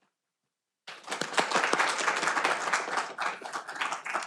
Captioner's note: audience clapping